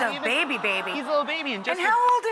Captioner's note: audience gasps